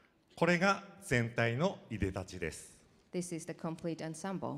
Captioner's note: speaking foreign language